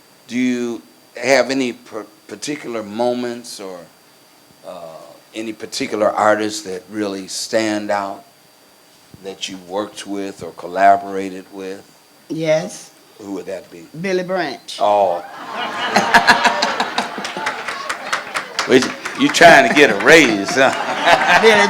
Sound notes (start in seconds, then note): 15.2 laughs; 17.3 crowd applauds